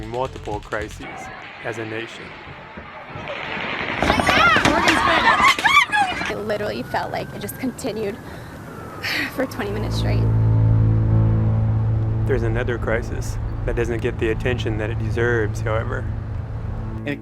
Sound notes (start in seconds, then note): 2.9 machine gun firing, people screaming; 10.7 slow mournful music